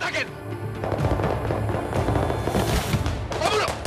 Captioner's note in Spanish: Disparos